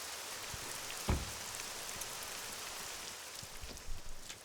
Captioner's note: car door slums